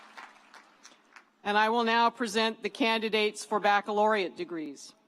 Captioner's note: applause